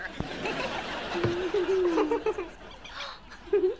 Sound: giggling

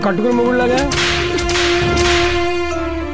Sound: whipping

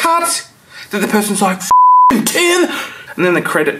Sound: beep

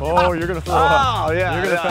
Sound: laughs

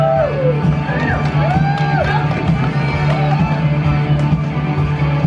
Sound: audience cheers

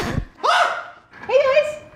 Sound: record scratching; screams

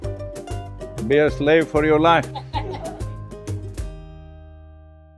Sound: laughs

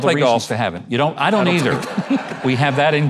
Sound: audience laughing

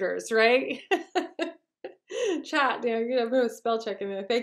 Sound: chuckles

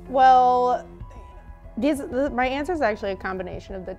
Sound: none

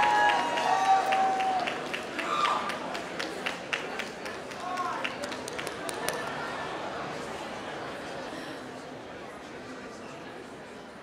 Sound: applause

